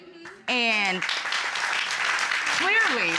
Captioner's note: applause